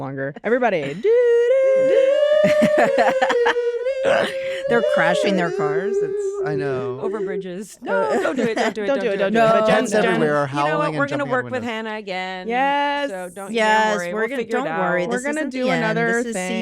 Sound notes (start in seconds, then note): 0.9 vocalizes; 1.9 hannah vocalizes tune from "hacks" soundtrack; 4.1 laughs